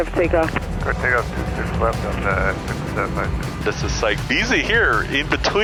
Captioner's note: air traffic muffled